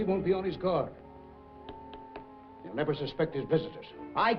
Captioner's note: taps table